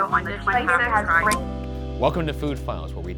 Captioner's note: phone beeping